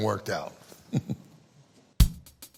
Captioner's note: laughs; upbeat music